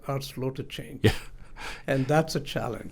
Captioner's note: laughs